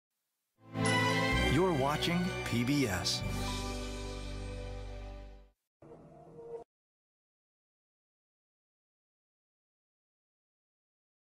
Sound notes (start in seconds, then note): 6.4 silence